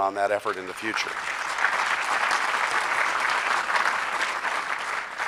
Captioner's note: crowd applause